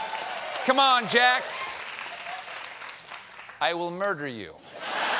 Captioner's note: as putin